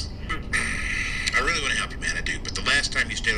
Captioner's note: man on Phone clearing his throat